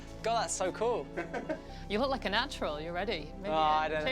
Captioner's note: laughing